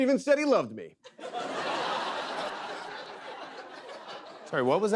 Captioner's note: laughter